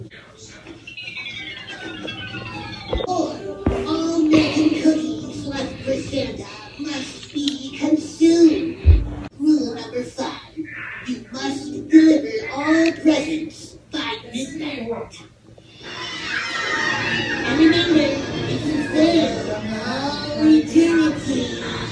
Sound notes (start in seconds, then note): 15.8 elves cheering